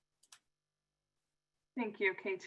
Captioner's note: clicking